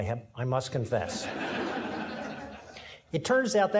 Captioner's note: audience laughing